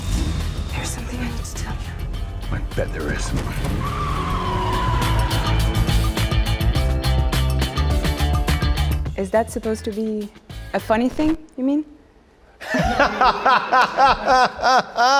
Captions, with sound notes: - There's something I need to tell you. - I bet there is. (car screeching) (upbeat music) - Is that supposed to be a funny thing? You mean? (laughing)